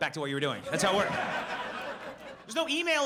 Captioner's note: audience laughs